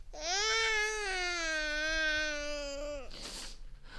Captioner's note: baby crying